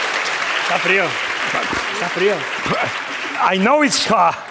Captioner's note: speaking spanish